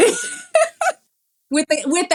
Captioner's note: laugh